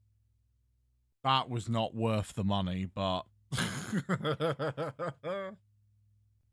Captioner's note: laughs